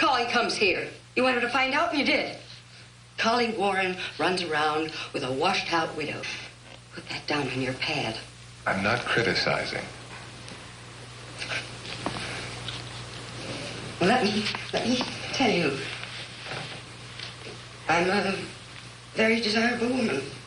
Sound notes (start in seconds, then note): none